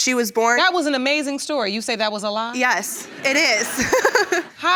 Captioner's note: laughs